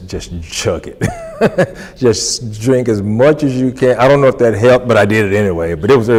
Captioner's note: laughs